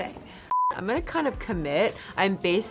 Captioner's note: beep